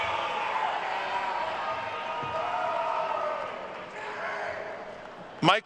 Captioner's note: attendees cheering and applauding